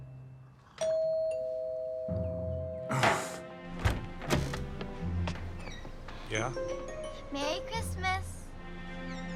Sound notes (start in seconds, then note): 0.8 doorbell rings